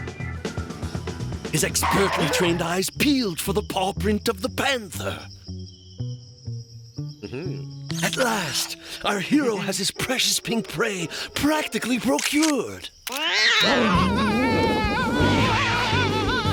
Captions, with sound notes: HIS EXPERTLY TRAINED EYES PEELED FOR THE PAW PRINT OF THE PANTHER. AH-HA. AT LAST, OUR HERO HAS HIS PRECIOUS PINK PREY PRACTICALLY PROCURED. (cat screeches) (screaming)